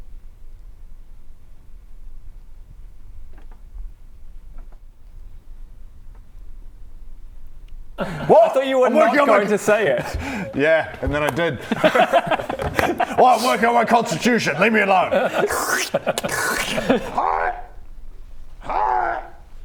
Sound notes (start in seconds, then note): 15.2 slurp; 15.2 sluuurp